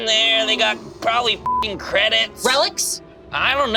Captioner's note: beep